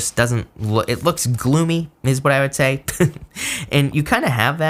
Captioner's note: chuckles